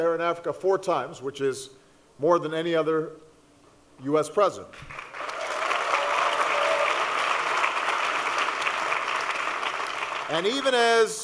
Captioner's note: applause